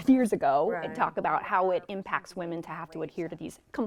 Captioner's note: guests talking